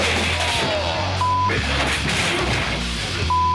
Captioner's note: grunts